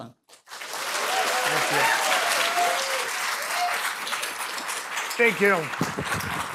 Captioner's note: applause